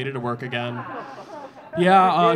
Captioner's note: audience laughing